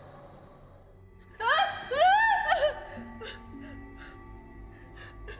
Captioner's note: Maggie screaming; gentle music